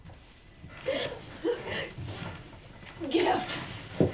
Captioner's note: gasping